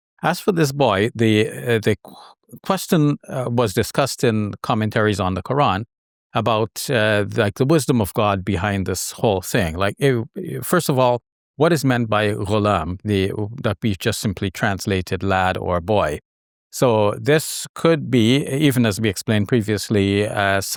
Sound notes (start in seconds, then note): 12.0 speaks in Arabic